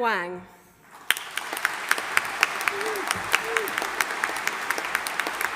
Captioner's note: audience applauding